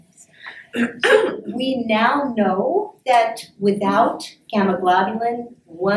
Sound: clears throat

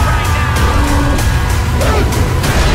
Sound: roaring

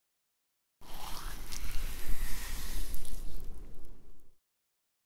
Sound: sound of digging

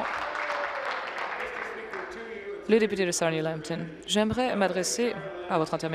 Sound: applause

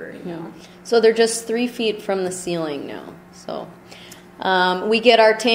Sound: voiceover

